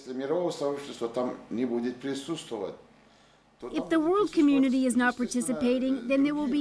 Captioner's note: speaking Foreign Language